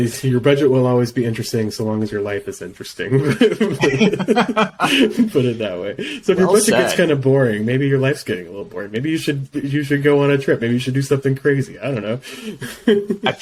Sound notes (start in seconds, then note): 3.2 laugh